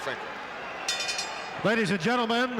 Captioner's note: bell rings